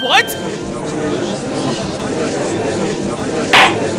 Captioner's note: gallery chattering; gavel slams!